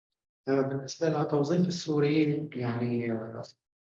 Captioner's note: speaking arabic